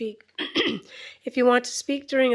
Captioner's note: clears throat